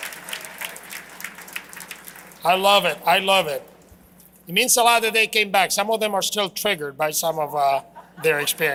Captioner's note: applause